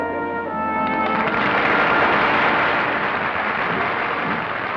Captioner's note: applause